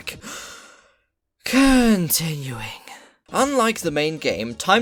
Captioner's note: while exhaling